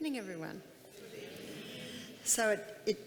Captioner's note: crowd